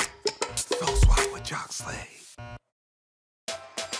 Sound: theme music playing; whispers

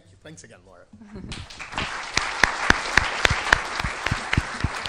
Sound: applause

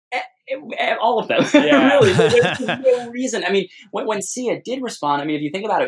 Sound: laughter

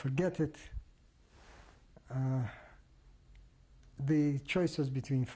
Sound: pauses for 3 seconds

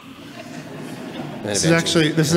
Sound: laughing

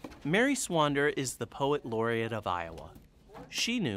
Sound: voiceover

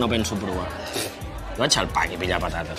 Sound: huffs

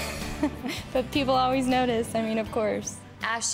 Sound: laughs

